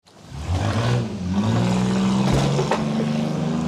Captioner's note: engine revving